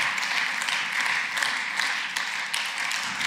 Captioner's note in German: Beifall